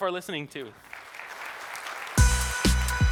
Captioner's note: applause